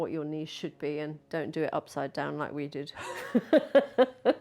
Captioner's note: laughs